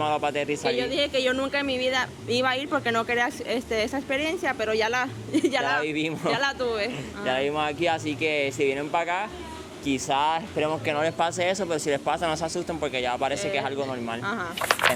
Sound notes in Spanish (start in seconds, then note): 5.3 risas